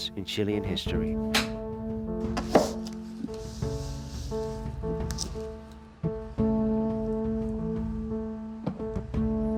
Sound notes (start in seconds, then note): 1.3 door lock clicks; 2.3 book thumps then scrapes; 6.1 somber music continues